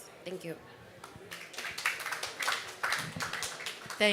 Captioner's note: applause